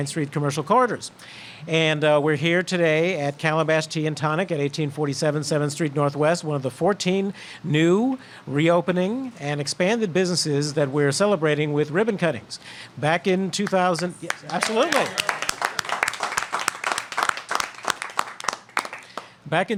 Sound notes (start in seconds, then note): 13.9 applause